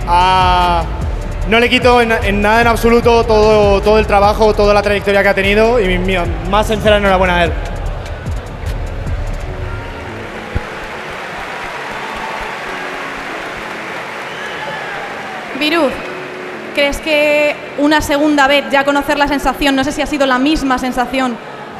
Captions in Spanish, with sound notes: No le quito nada en absoluto todo el trabajo, toda la trayectoria que ha tenido y mi más sincera enhorabuena para él. (Aplausos y ovación) Viruzz, ¿crees que una segunda vez, conocer la sensación…? No sé si ha sido la misma sensación,